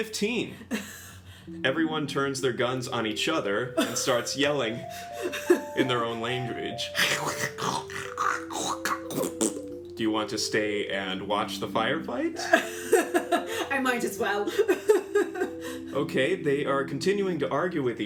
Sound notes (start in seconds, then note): 7.1 Trandoshans yelling; 8.7 thppp